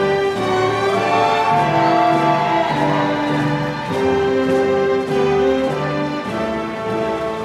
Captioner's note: audience applause; audience cheering